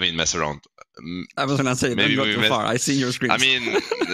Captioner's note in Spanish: Risas